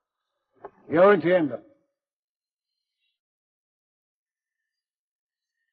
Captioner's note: speaks foreign language